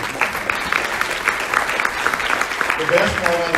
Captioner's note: audience applauds